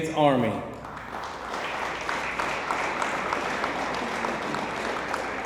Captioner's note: audience applauds